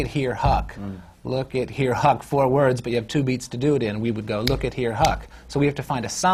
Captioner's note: snaps